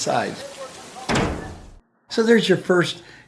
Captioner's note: rain, fireflies, drill sergeant issuing orders, and metal door closing